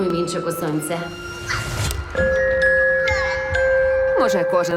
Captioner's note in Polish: dzieci wesoło krzyczą